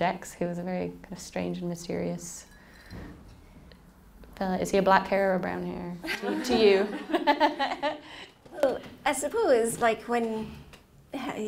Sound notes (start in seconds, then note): 6.1 laughing